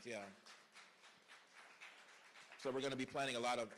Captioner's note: applause